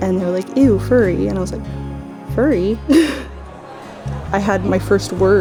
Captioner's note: laughs